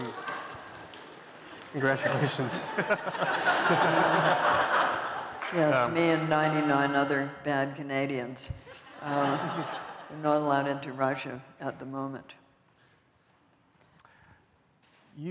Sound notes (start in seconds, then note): 1.8 laughter